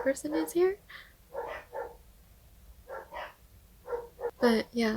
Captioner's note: borking in the distance